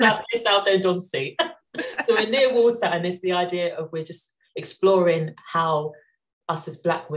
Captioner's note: laughing